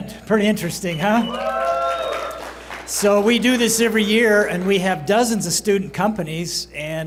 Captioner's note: applause